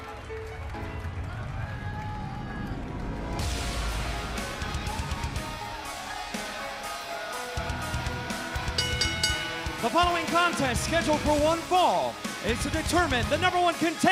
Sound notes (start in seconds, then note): 3.3 cheers and applause; 8.6 bell ringing